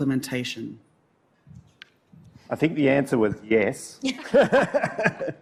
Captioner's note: laughter